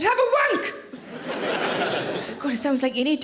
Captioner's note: audience laughing